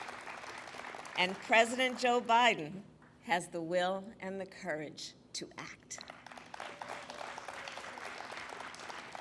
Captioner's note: applause